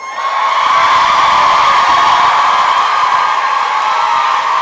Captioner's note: applause and cheering